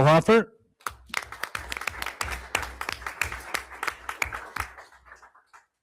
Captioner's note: everyone applauds